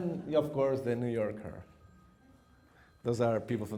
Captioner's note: phone rings